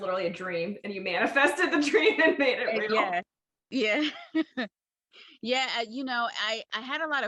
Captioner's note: laughs